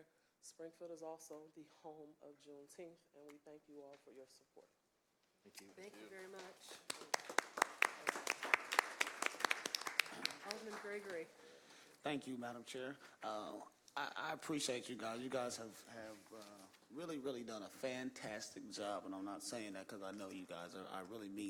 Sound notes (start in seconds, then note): 10.4 applause